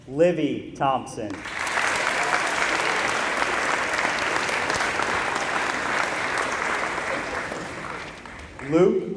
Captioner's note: applause